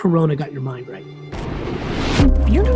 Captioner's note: thuds